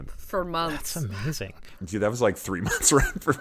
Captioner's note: laughter